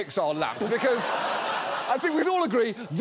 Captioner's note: studio audience laughs